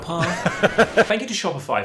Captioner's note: laughing